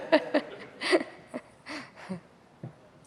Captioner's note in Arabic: ضحك